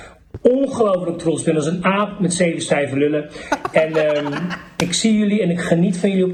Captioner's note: all laughs